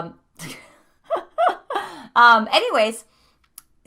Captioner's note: laughing